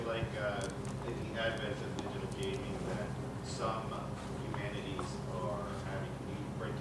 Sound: speaks faintly

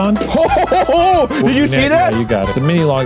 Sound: laughs excitedly

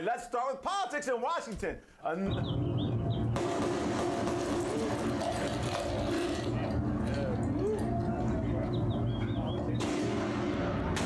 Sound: gun shots

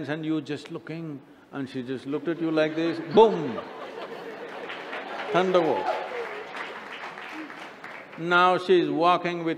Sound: laughter

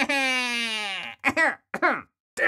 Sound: joker laugh; coughs

